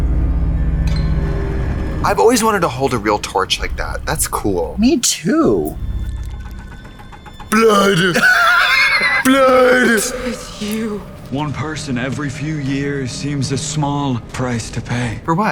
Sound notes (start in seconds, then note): 1.1 ominous music; 7.5 Katya laughs